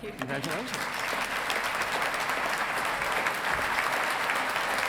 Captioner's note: audience clapping